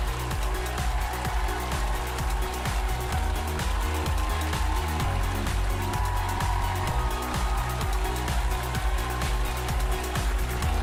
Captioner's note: applause